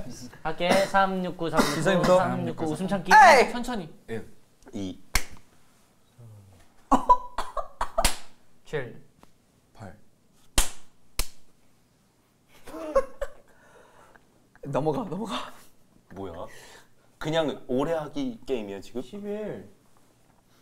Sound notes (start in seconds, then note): 5.1 clap; 7.9 clap; 10.5 clap; 12.6 laughing